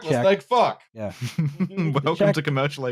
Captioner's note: laughing; laughs